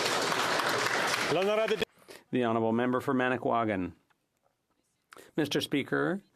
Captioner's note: some Applause